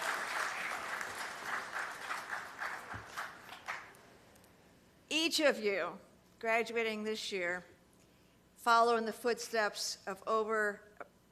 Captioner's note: applause